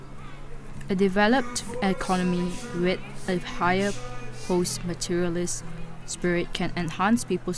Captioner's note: voice-over